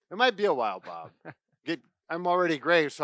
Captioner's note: laughs